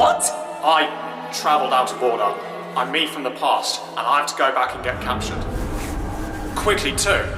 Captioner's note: tardis engines groan